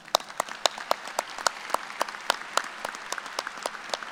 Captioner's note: applause